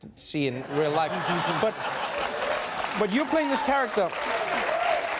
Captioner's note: laughter; applause and cheering